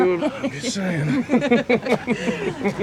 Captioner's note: Eva laughing